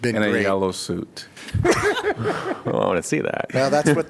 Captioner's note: laughter